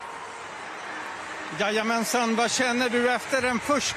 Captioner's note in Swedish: Applåder